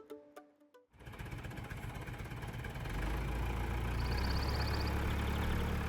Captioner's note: tractor engine roars